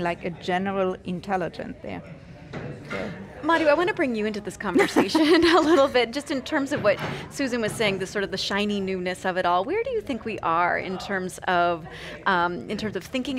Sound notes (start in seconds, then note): 4.8 laughing